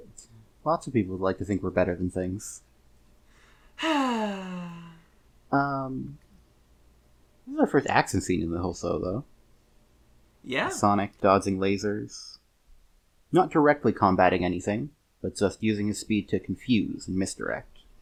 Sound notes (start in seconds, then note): 3.8 sighs